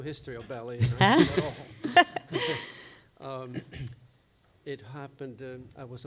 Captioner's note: begin laughing